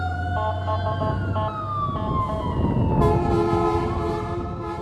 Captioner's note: horns blaring